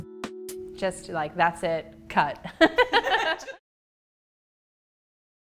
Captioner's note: laughs